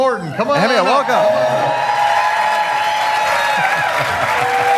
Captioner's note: audience cheering